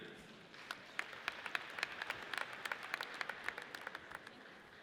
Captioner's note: audience applauds